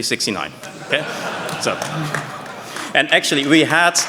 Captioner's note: laughter